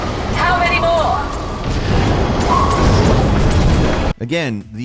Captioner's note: weapons firing